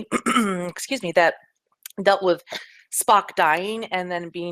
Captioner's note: clears throat